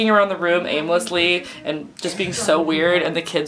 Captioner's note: background noise from bookstore